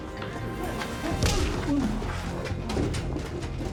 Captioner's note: groan; punch